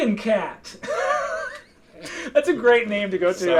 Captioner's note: laughing